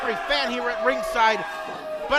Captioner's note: crowd booing